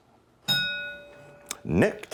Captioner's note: ding